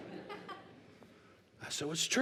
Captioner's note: laughter